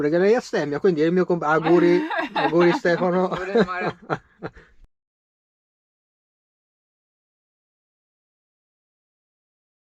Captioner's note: laughter